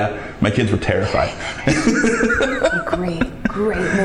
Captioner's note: laughs